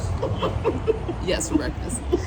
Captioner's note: woman laughing